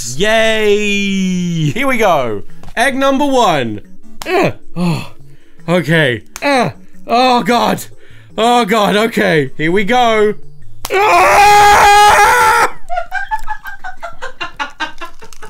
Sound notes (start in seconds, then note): 4.2 grunting; 6.4 grunting; 10.8 screaming; 12.8 laughing